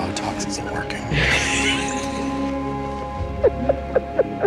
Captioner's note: both laugh